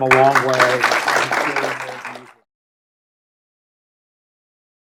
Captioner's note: audience applauding